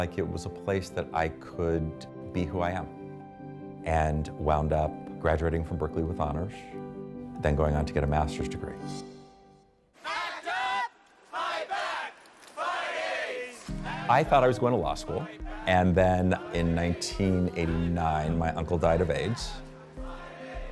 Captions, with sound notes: I felt like it was a place that I could be who I am. And wound up graduating from Berkeley with honors, then going on to get a master's degree. (people chanting) - I thought I was going to law school, and then in 1989, my uncle died of AIDS,